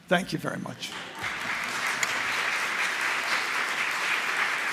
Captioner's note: audience applauds